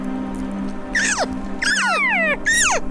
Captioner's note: hunters cow calling